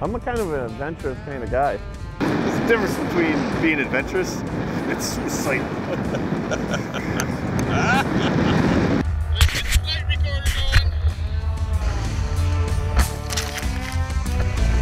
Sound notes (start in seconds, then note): 5.6 laughing; 11.9 upbeat music